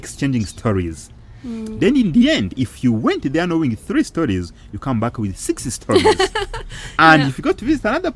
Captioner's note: laughing